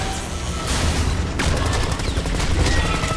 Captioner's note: machine gun blasting